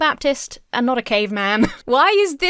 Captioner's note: Emma laughs